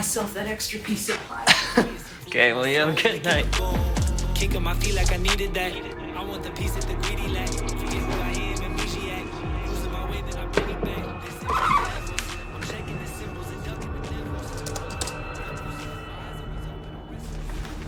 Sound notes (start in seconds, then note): 11.4 fingers squeak on laptop; 14.4 typing